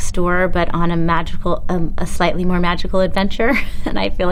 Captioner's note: chuckles